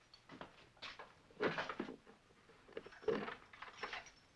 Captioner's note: door opens